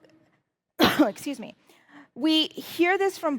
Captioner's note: coughing